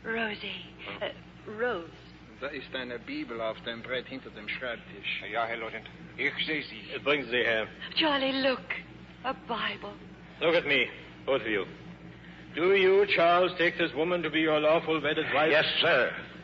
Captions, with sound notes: Rosie. Rose. (speaking in German) Charlie, look. A Bible. Look at me. Both of you. Charles, take this woman to be your lawful wedded wife. Yes, sir.